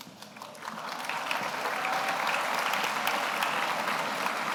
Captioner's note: audience applauds